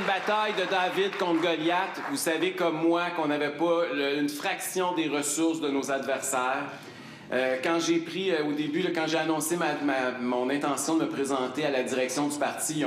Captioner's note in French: applaudissements